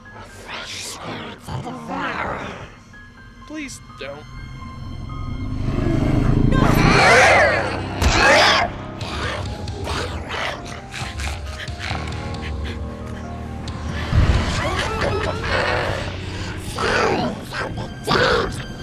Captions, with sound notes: [distorted voice] A fresh spirit to devour. Please don't. [growls] No! [slash, roars] [distorted voice] Better run. [growling, evil laughter] [distorted voice] Souls of the dead,